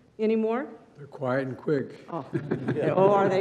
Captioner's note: laughs